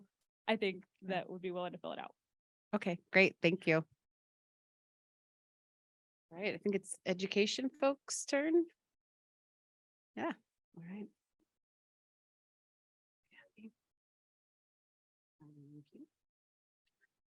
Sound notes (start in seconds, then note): 13.2 silence